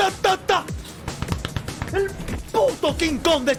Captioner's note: chest pounding in Spanish